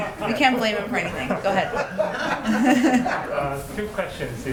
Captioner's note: laughter